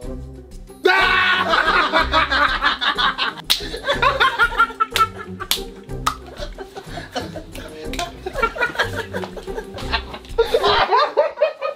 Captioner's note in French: Fou rires